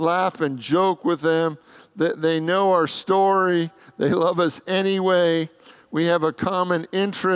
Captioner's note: congregants laugh